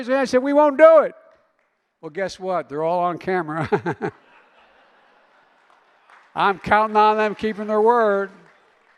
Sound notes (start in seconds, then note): 3.5 laughter